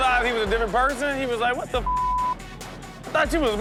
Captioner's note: beep